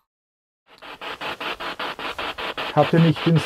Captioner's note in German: Noise of the spiritbox in the background